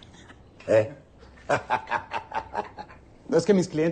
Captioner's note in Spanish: Risas